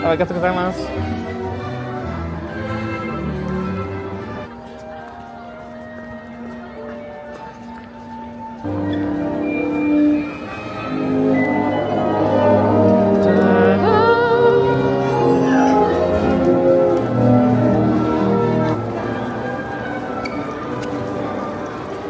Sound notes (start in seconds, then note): 1.8 bright music; 5.5 soft music; 10.3 dramatic music; 10.9 humming along; 19.3 light music